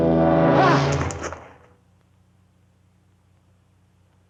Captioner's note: Andre shrieks